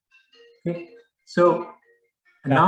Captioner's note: phone rings